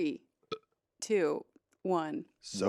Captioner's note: Ian burps